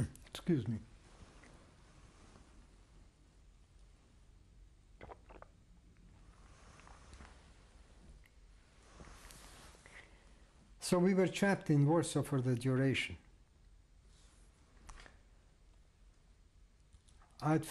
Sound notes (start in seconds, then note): 5.0 drinks